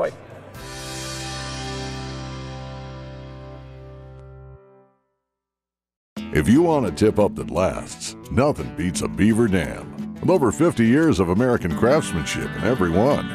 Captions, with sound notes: (guitar chord) - [Voiceover] If you wanna tip up the blasts, nothing beats a Beaver Dam. Over 50 years of American craftsmanship in every one.